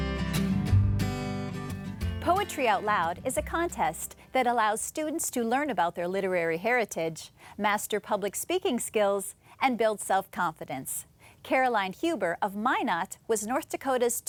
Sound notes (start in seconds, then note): 0.0 lighthearted music; 2.4 voiceover